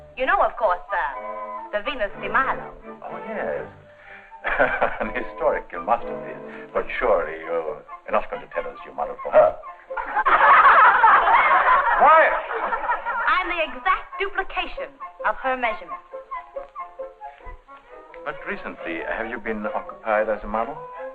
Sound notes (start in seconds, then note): 4.4 chuckling; 10.0 all laughing